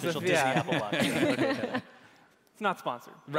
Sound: laughing

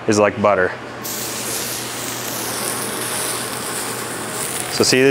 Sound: griddle sizzles

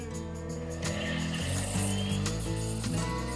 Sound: cappuccino machine whirring

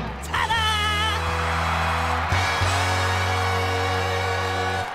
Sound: crowd cheering

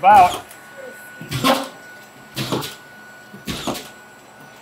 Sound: nail gun thumps

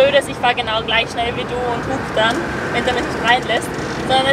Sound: honk honk

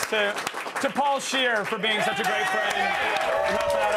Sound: cheers and applause

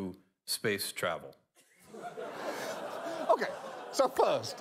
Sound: audience reacts

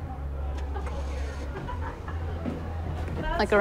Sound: car starts up

